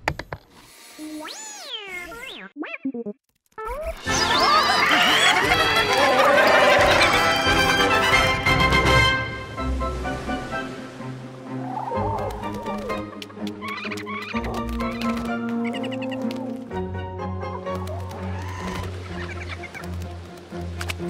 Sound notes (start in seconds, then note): 0.2 whirring, beeping; 8.9 upbeat music playing; 11.5 chirping